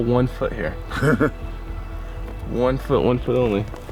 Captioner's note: laughs